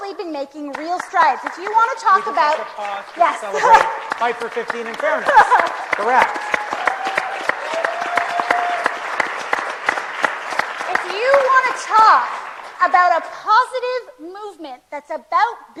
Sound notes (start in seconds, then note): 3.4 applause